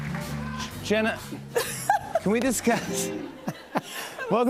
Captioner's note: laughs